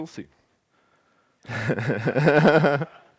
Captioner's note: laughter